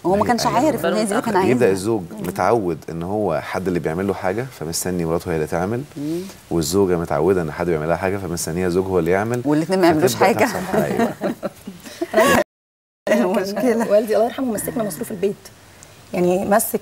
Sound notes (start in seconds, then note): 10.3 laughs!